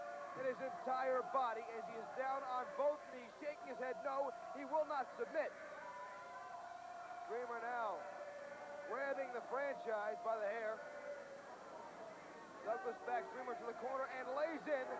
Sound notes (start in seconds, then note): 7.8 crowd chatter